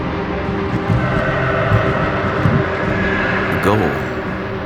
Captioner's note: horse whinnies